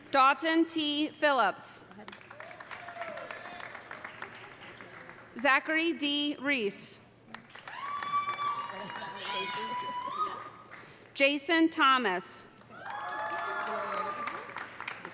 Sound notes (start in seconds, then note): 2.0 audience applauding; 2.3 audience cheering; 7.3 audience applauding; 7.6 audience cheering; 12.7 audience applauding; 12.7 audience cheering